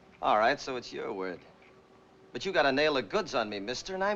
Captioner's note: none